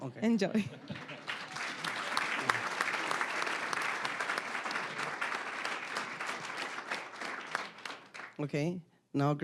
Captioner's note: applause